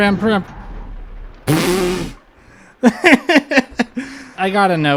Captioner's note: laughter